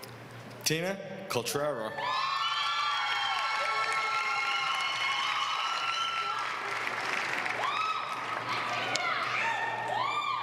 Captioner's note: applause